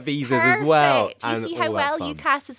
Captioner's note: speaks faintly